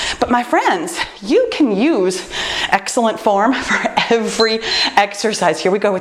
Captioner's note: timer beeps